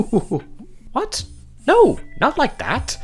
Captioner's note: laughs